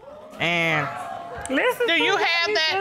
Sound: audience exclaiming

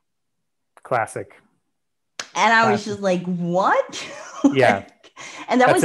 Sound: claps; laughs

